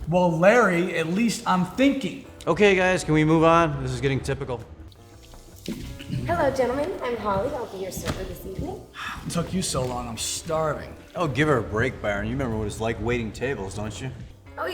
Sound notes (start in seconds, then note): 8.9 sighs